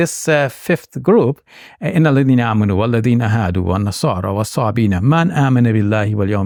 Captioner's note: speaking in Arabic